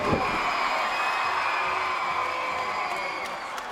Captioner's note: crowd cheers